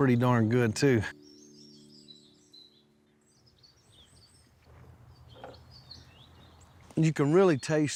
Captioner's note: birds chirping